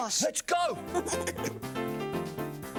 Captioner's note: chuckling